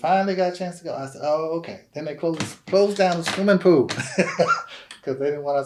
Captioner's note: laughs